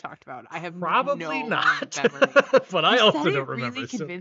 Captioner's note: laughs